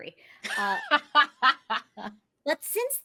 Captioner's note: laughs